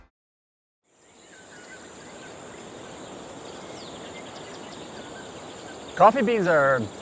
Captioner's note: birds chirping